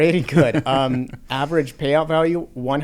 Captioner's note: laughs